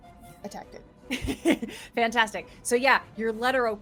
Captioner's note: laughs